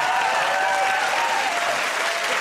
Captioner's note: cheers and applause